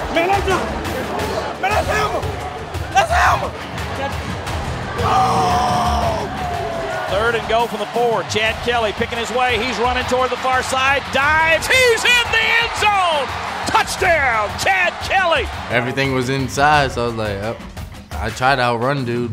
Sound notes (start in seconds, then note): 0.2 voiceover; 4.1 team and crowd cheers; 7.2 voiceover; 13.6 crowd cheers